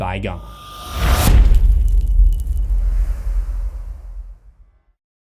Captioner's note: impact